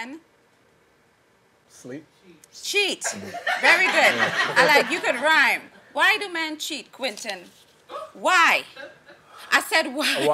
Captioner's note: laughing; laughing